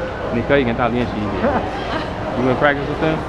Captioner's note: mandarin